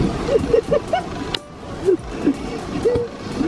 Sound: more laughing

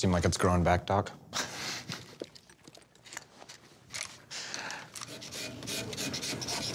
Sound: laughs

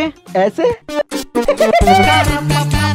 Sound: laughing

